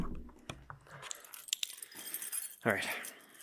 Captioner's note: keys clanging